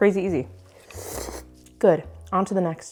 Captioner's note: slurping